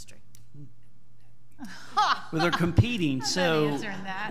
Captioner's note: laughs